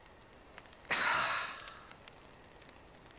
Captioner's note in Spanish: suspira